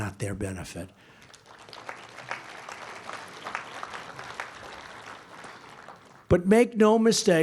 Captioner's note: applause